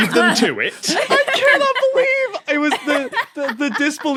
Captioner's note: guests laughing